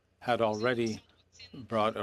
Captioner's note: speaking French